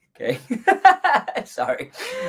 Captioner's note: laughs